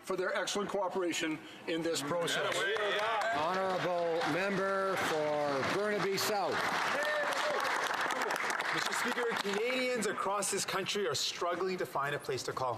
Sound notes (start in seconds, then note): 6.0 some Applause; 10.2 some Applause